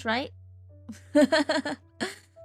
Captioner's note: laughs